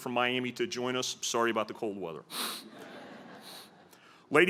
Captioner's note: laughter